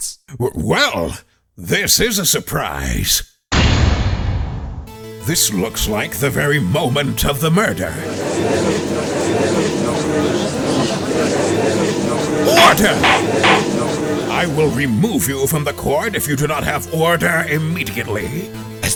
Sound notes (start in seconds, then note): 7.6 gallery chattering